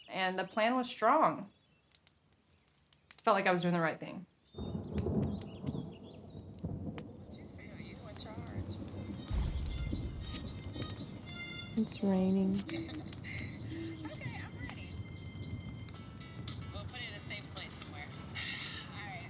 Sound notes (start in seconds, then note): 4.9 thunder rumbles; 9.2 soft music; 12.6 laughing